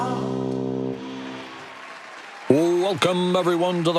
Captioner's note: audience clapping